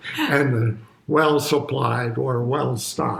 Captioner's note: chuckles